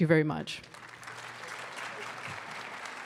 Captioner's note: applause